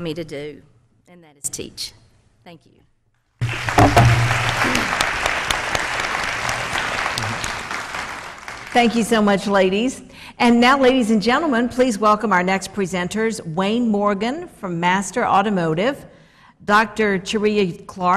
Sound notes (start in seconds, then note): 9.7 applause